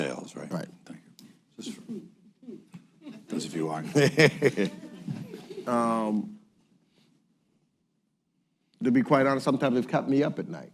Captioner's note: laughter